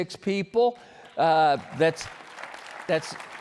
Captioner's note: applause